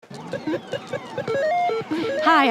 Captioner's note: video game sound effects